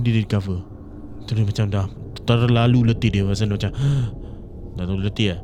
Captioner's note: exhaled and collapsed